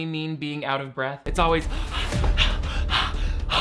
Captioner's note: breathing heavily